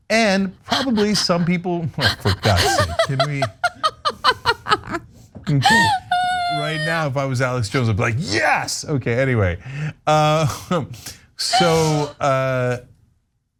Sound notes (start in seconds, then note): 1.9 laugh